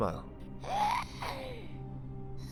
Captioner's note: pained hiss